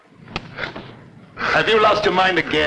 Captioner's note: hand slaps